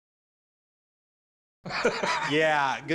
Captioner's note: laughs